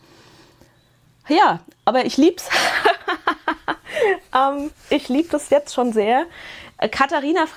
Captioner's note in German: Gelächter